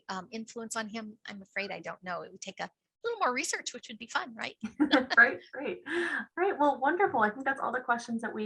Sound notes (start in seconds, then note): 4.6 laughs